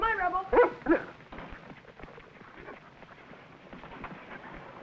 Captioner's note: Rebel barking